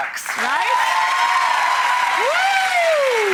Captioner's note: audience applauding